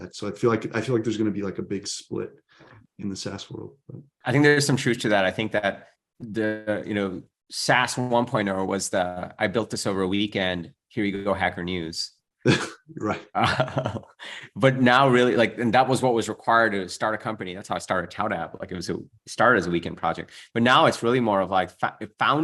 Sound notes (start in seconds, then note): 12.4 laughs; 12.5 chuckles